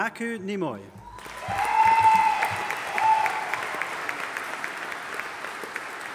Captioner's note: audience applauding and cheering